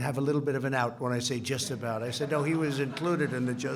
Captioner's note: laughter